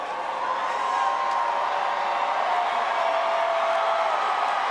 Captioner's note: audience cheers